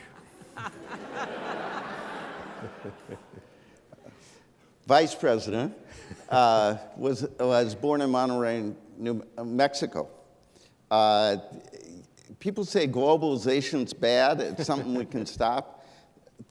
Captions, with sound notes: (laughs) Vice-president was was born in Monterrey in New Mexico. People say globalization is bad, something we can stop.